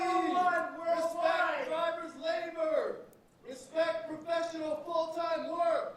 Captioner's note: shouting